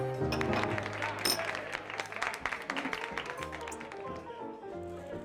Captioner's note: applause